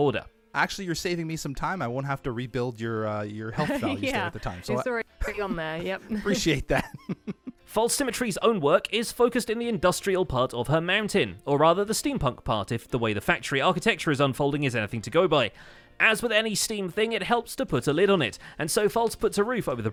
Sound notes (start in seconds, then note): 5.2 laughs